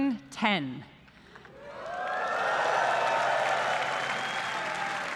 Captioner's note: applause